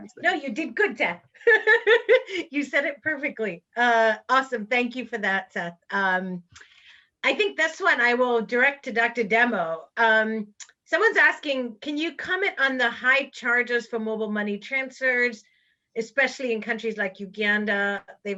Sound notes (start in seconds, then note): 1.4 laughs